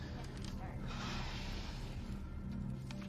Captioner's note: sighshs